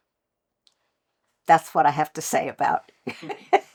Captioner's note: laughter